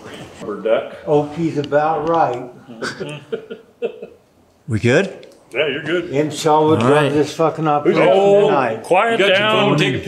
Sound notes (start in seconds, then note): 2.7 man laughs